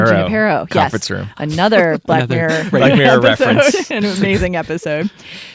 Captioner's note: laughs